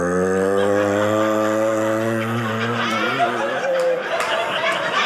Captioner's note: audience laughing